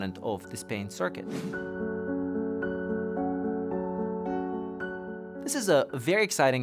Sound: transition whooshing

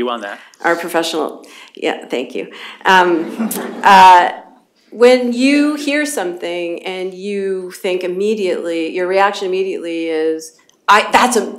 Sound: laughter

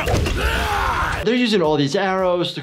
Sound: grunting; yelling

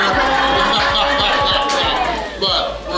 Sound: all laughing

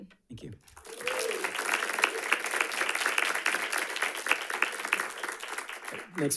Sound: audience applauding

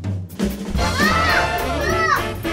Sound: kids chattering

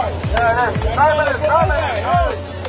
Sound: clapping

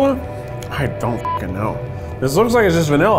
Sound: beeps

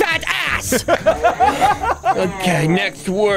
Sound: laughs

